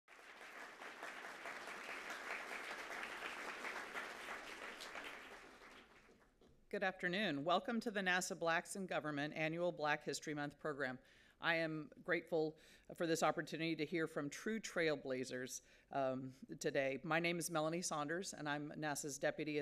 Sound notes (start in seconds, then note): 2.0 applause